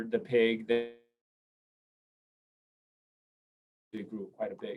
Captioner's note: audio cuts out briefly